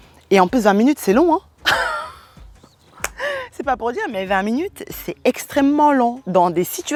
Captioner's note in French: rires